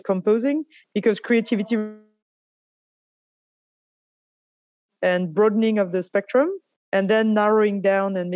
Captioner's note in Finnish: sound is cut